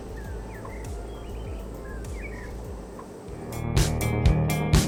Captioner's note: birds chirping; upbeat music